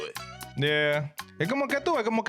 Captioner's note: speaking In Foreign Language